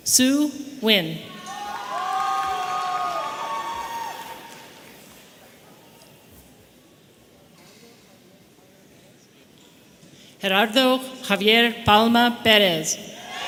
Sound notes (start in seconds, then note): 1.3 audience cheering; 13.2 audience cheering